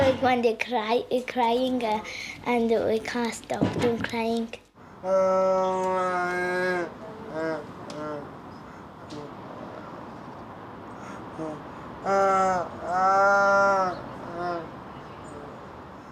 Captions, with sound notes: - When they cry, it crying and we can't stop them crying. (groaning)